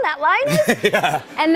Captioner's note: laughter